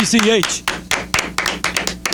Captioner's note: clapping